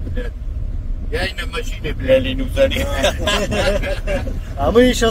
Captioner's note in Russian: смех